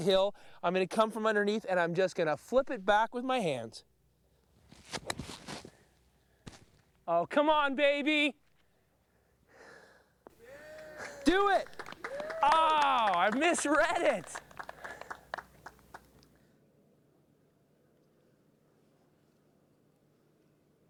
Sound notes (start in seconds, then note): 10.4 men cheering; 13.5 people cheering